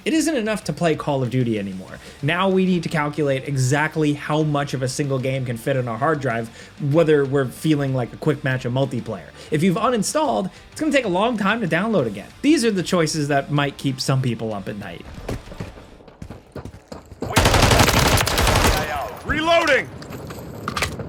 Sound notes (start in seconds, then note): 15.1 footsteps tapping; 17.3 gun blasting; 20.6 gun cocking